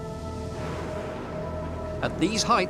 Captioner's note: thunder rumbles